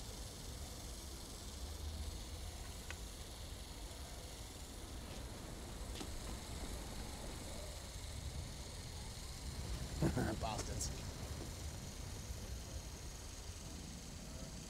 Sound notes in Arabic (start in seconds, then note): 9.9 يضحك